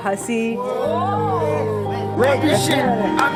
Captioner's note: whoaaaaaa